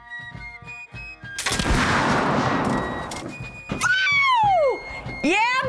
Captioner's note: yells excitedly; gunshot